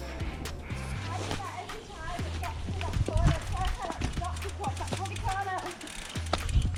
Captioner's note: speeks with a strong scottish accent that is hard for a french to understand